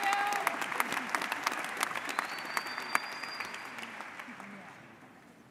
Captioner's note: audience applauds